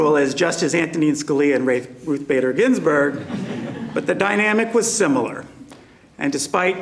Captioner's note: laughter